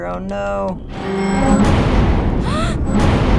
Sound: gasps; bus shudders, collapses

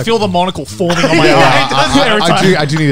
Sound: laughing

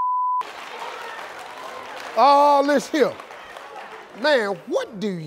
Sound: crowd laughs

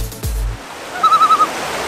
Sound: loon call

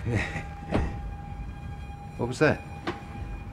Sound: sirens wailing

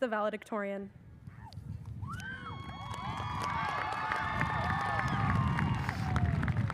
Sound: audience cheers and applauds

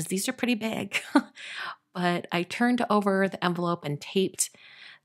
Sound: laughing

